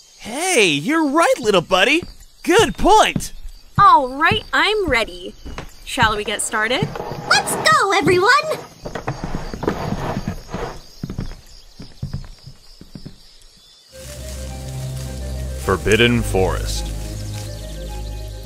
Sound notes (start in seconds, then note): 3.6 footsteps on wood; 5.9 chairs scraping on floor; 8.7 footsteps on wood trail off